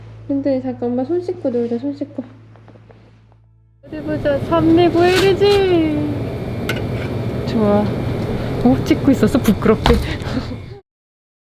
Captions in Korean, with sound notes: 디디 잠깐, 엄마 손 씻고 놀자. 손 씻고. 어디 보자, 산 미구엘이지~! 좋아...♡ 어엇, 찍고 있었어? 부끄럽게... (웃음)